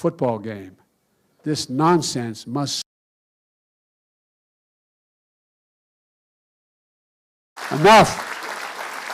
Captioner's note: applause